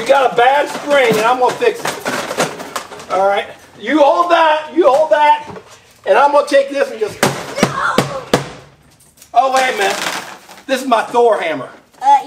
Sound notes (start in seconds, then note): 7.0 tool banging